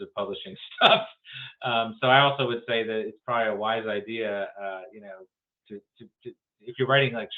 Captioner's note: laughs